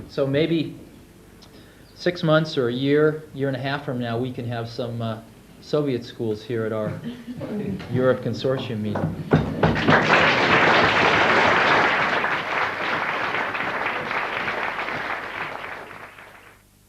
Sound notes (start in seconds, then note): 9.3 audience applauds